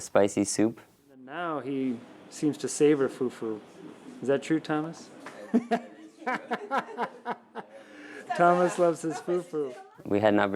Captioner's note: laughs